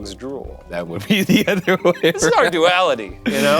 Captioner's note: laughs